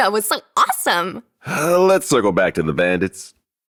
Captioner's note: sigh